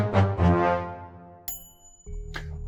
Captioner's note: ding